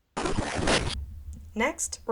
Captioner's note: radio static